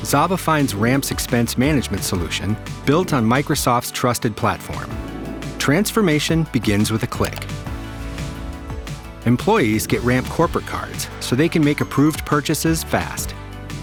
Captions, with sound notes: Zava finds Ramp's expense management solution built on Microsoft's trusted platform. Transformation begins with a click. (mouse clicking) Employees get Ramp corporate cards so they can make approved purchases fast.